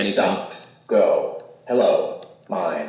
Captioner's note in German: Sprachgerät